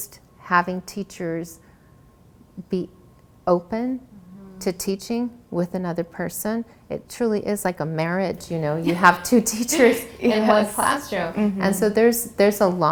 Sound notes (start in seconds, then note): 8.8 laugher